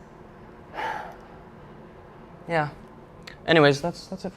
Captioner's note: sighs